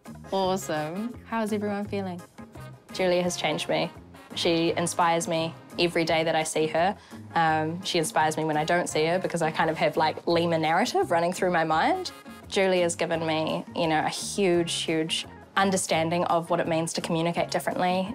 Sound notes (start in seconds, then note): none